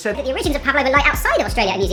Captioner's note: high pitched voice